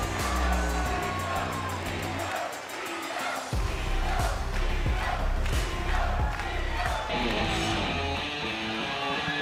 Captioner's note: crowd chanting "io, io"